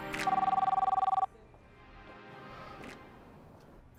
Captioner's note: phone ringing